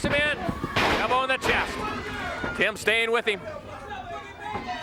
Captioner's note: body thudding